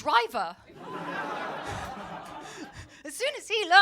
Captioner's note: audience laughing